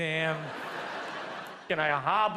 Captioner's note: audience laughs